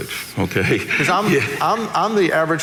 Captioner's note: laughs